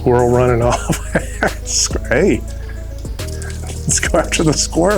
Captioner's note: laughing